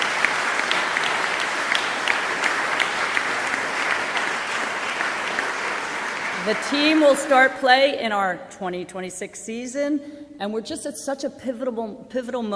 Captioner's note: applause